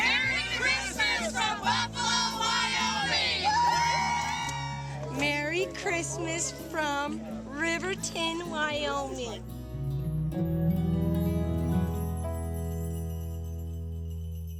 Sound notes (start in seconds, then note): 4.0 cheering; 10.7 light string music